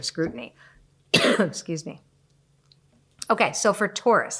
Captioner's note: coughs